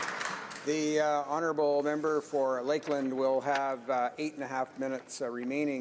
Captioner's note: applause